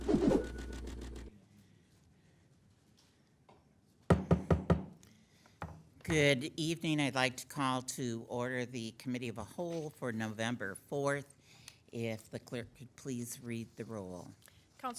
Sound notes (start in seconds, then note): 0.0 swooshing; 4.1 gavel knocking